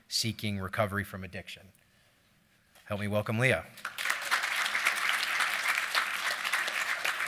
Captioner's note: applause